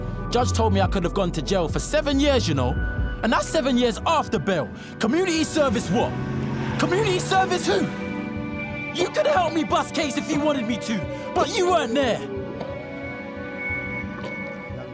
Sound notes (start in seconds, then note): 13.0 coughing continues